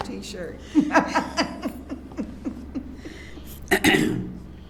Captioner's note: laughs